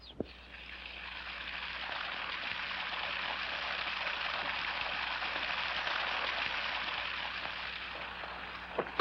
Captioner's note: water running